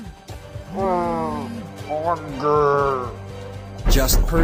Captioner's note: zombie speak